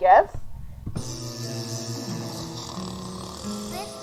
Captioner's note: laughing; dogs" echoes; snoring; echoing